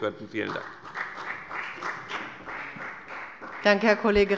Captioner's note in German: Beifall bei der FDP